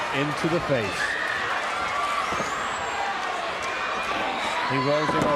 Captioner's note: crowd chatter